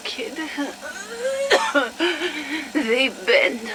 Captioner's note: coughs